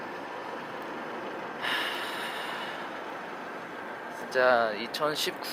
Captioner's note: sigh